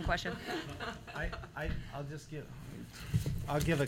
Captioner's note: laughter